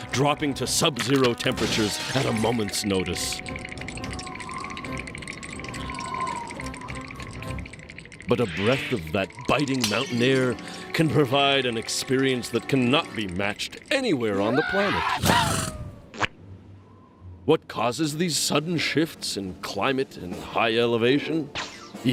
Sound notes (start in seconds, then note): 3.8 wind whistling